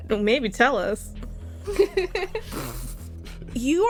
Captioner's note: laughter